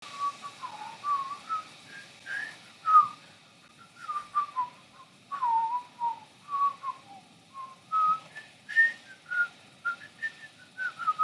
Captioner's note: whistling " "